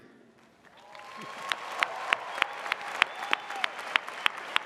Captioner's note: audience cheers